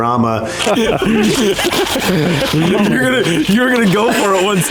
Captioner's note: laughing